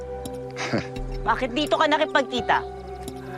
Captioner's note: diego chuckles